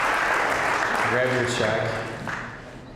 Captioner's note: applause